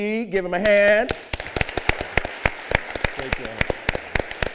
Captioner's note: applause